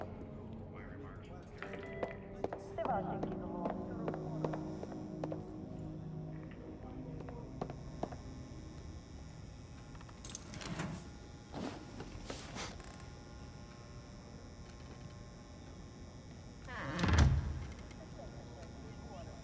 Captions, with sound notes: - Why re-mark you? (muffled radio chatter) - Ah. - What?